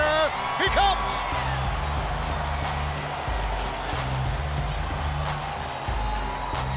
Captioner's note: crowd cheers; hip hop music plays